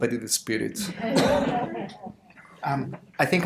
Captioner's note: audience laughter